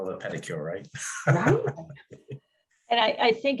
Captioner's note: laughing